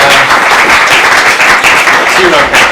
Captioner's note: audience applauds